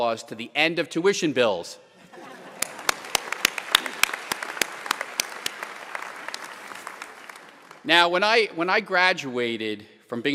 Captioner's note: applause